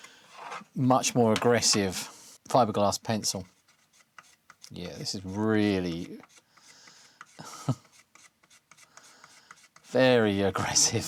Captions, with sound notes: much more aggressive fiberglass pencil. Yeah, this is really, (Chuckles) very aggressive.